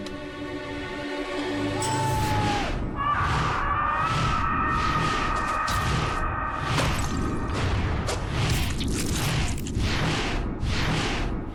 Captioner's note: whoosh Woosh; scream